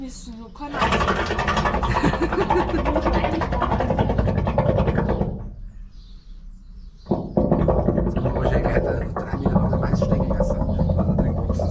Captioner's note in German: Gelächter